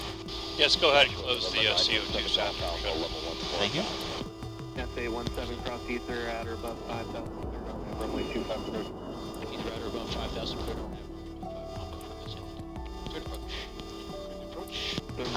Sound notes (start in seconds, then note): 5.5 radio Chatter- Approach & Landing